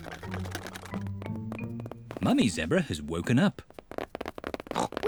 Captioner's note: pattering; oinks